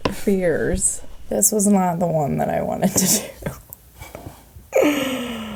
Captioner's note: laughs